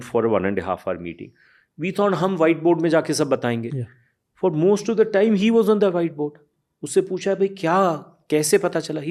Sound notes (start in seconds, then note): 3.7 speaks in Hindi